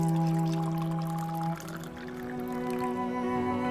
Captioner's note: mellow music; coffee pouring